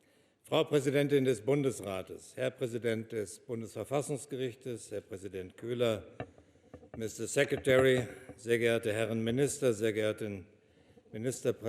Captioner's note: speaks German